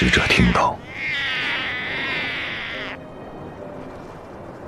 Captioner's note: the calls of the snow leopard cub